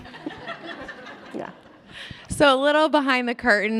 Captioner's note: all laugh